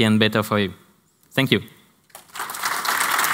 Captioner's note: applause